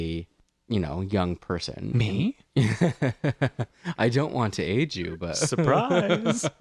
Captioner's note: laugh